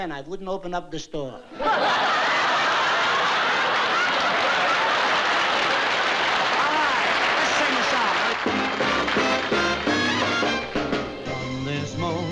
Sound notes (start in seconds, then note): 1.5 laughter; 4.3 applause